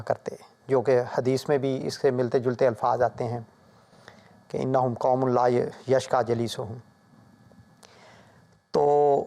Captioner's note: Arabic